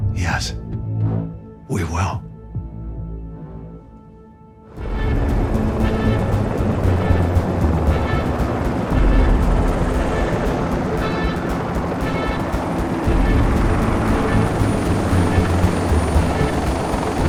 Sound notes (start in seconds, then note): 2.6 dramatic music; 5.1 helicopter whirring